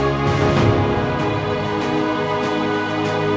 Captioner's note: birds chirping